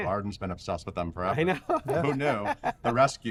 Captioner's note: laughs